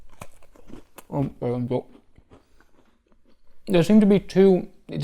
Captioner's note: cookie crunching